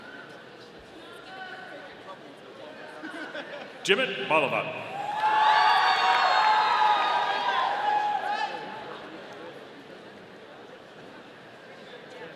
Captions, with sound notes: Jimit Bhalavat. (audience cheering)